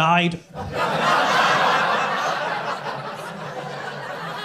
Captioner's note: crowd laughing